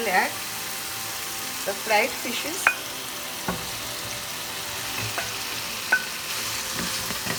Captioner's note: oil sizzling